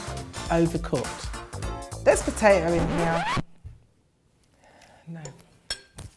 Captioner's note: record player stopping